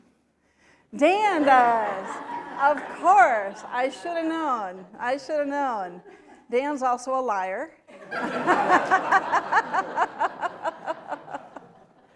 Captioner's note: laughter